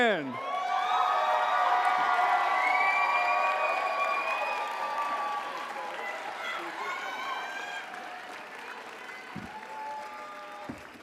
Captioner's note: applause